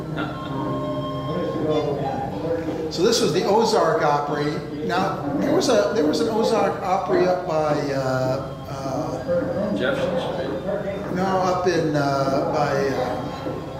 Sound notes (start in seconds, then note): 0.1 chuckles